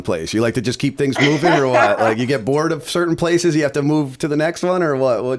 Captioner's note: chuckle